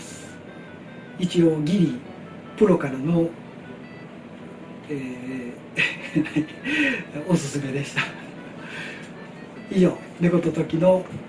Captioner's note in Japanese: 笑い